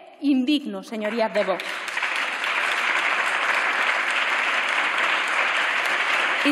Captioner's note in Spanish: Aplausos